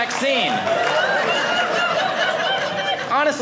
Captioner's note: audience laughing